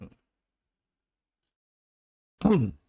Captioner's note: silence